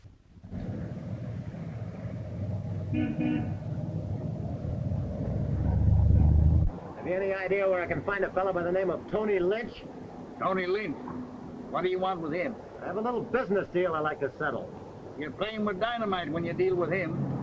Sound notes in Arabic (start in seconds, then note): 0.2 هدير المحرك; 2.9 يصدر صوت البوق